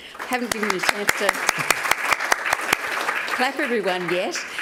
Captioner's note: applause